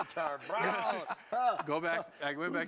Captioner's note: laughs